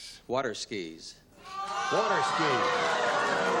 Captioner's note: audience oh-ing